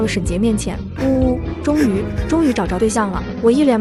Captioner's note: sob sob